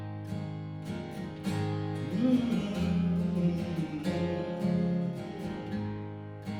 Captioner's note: humming